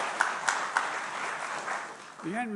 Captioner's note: applause